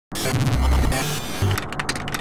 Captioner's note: typing